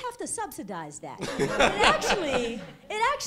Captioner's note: laughter